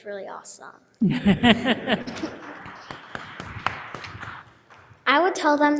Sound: audience and board members applauding

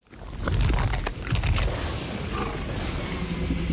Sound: crunching

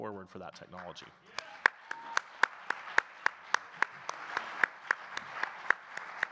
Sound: audience cheering and clapping

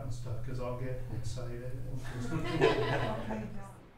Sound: laughter

